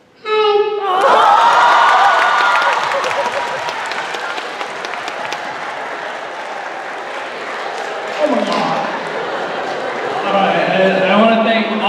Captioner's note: audience laughing and clapping